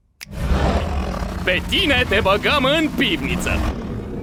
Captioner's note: Kaufmo growling; eerie low rumbling; water lapping